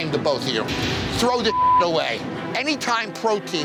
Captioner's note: beep